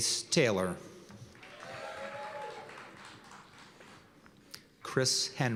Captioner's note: cheers and applause